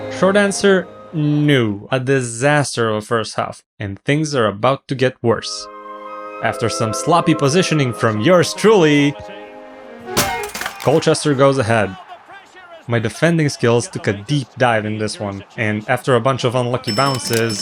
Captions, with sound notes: Short answer... "NO" A disaster of a first half. And things are about to get worse... After some sloppy positioning from yours truly... [breaking musical instruments] Colchester goes ahead. My defending skills to deep dive in this one. And after a bunch of unlucky bounces...